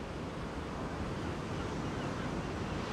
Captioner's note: seagulls cry out